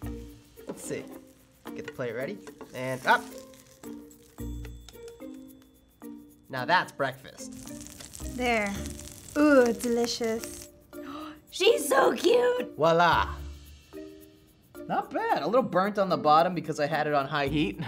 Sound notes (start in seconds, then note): 11.0 gasps